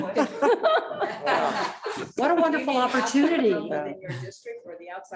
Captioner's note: board members laugh